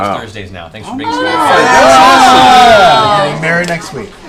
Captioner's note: cheering